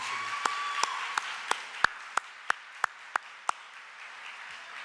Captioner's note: audience applauding